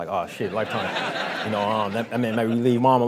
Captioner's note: crowd laughing